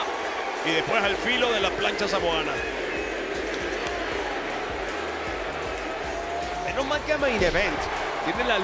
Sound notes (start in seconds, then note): 0.0 applause